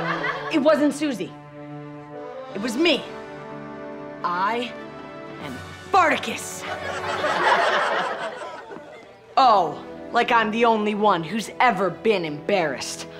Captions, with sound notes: It wasn't Susie. It was me. I am Fartacus. [laughing] Oh, like I'm the only one who's ever been embarrassed.